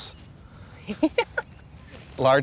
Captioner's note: laughs